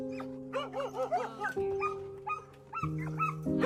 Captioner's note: dogs barking